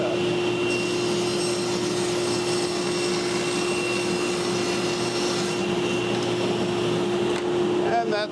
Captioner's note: saw whirs